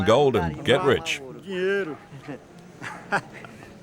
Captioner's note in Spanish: <i>habla en portugués</i>